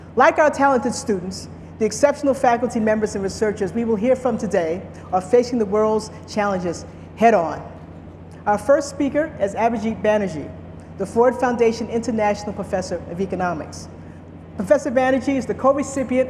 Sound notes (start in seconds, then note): none